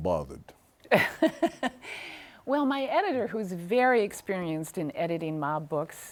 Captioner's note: laughs